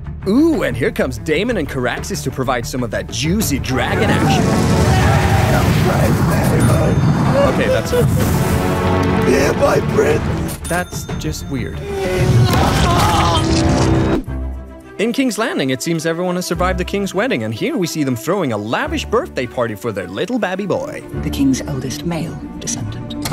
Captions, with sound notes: Ooh, and here comes Daemon and Caraxes to provide some of that juicy dragon action! Hail Prince Daemon! Ok that’s enough. Here, my Prince! That… is just weird. (Splat) In King’s Landing, it seems everyone has survived the king’s wedding, and here we see them throwing a lavish birthday party for their little babby boy. - The king’s eldest male descendant.